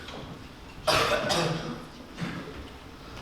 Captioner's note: coughs